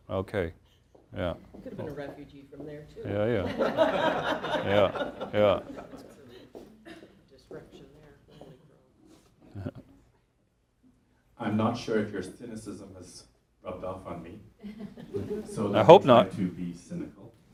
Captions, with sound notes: >> Okay. Yes. >> I could have been a refugee from there, too. >> Yes. Yes. [ Laughter ] >> I'm not sure if your cynicism has rubbed off on me. >> I hope not.